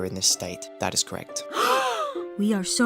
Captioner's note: all gasp